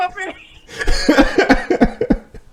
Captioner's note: laughing